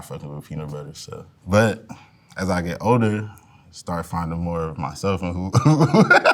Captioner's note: laughs